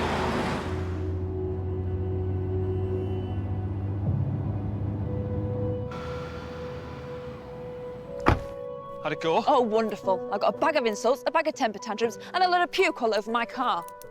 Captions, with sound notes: (gentle orchestral music) (door clicking) - How'd it go? - Oh wonderful! I got a bag of insults, a bag of temper tantrums, and a load of puke all over my car!